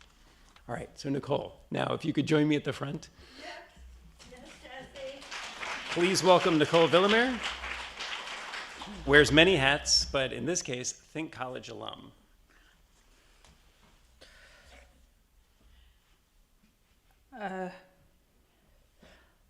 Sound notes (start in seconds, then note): 4.8 attendees applauding